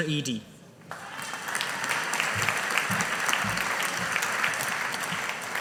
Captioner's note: audience applauding